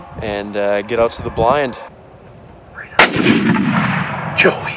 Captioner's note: gun shot